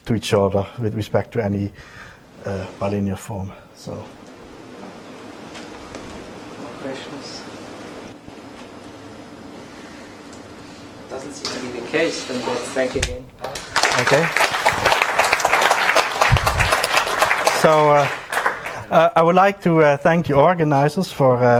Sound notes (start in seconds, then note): 16.0 applause